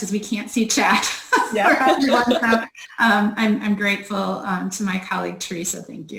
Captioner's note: laughs